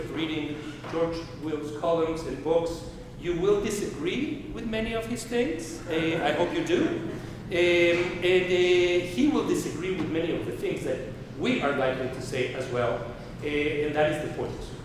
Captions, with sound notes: of reading George Will's columns and books, you will disagree with many of his takes. I hope you do. (audience laughing) And he will disagree with many of the things that we are likely to say as well, and that is the point.